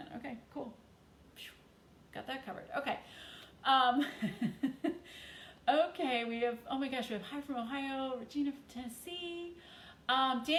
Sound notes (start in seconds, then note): 4.0 chuckles